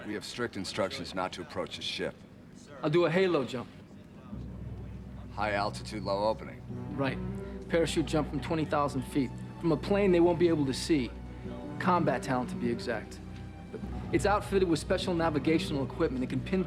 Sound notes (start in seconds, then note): none